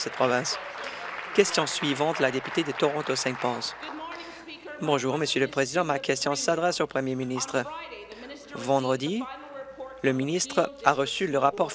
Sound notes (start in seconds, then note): 4.0 applause